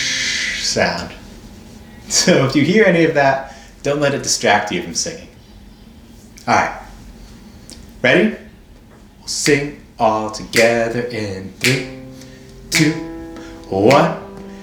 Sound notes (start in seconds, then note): 11.6 snapping